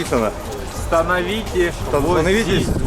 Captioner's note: reads Czech